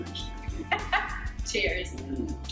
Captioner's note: laughs